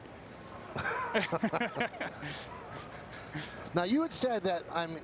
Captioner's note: laughter